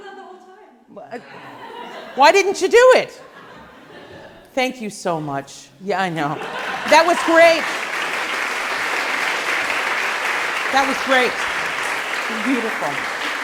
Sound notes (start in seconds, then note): 1.2 laughing; 9.3 applause